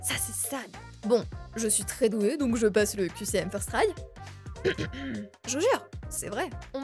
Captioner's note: clears throat